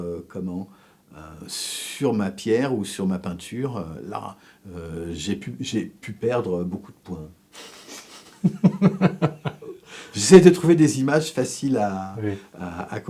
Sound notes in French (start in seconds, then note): 7.7 rires